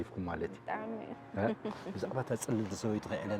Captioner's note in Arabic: تضحك